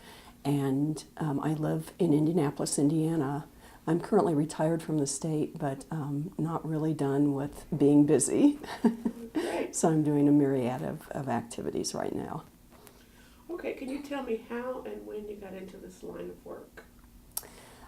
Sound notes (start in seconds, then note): 8.1 chuckle